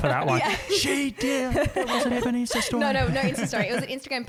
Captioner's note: voice muffled